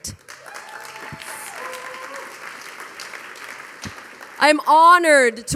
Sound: audience applauding; audience cheering

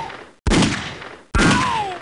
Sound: gunshots

